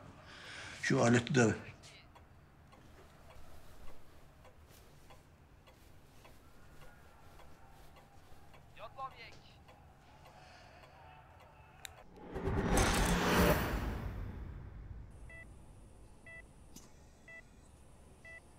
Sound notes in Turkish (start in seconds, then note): 12.0 Efekt sesi